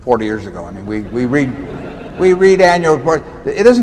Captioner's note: laughter